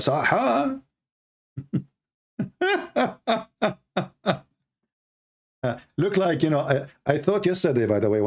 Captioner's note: Ketawa